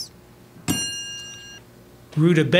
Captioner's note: ding